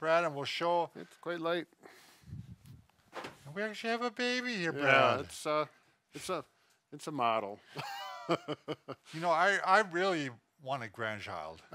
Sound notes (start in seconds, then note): 7.7 laughs